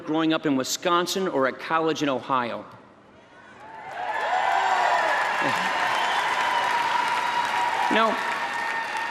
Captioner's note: applause